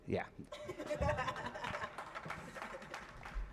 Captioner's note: chuckling